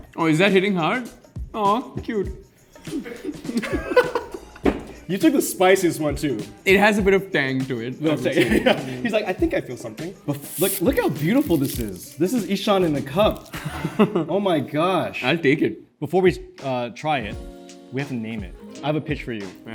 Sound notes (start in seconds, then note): 2.8 both laugh